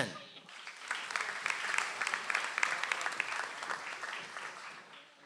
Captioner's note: audience applauds